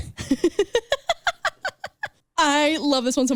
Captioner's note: laughing